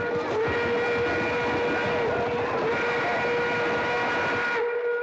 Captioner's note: horses bustling; train whistle blaring